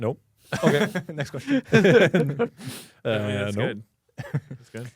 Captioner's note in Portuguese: risos